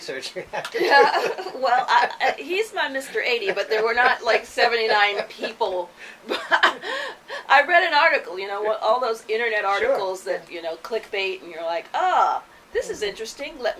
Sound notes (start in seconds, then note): 0.0 laughs; 5.3 laughs